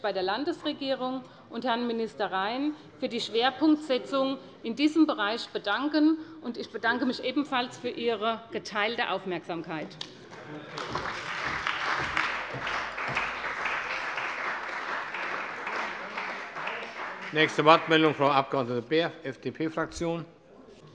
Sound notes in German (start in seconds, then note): 10.3 Beifall bei der CDU und dem BÜNDNIS 90/DIE GRÜNEN sowie bei Abgeordneten der FDP